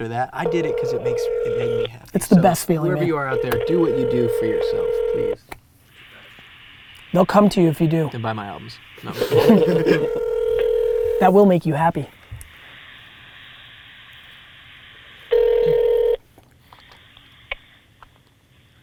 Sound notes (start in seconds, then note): 2.4 phone ringing; 9.0 group laughter; 15.3 phone ringing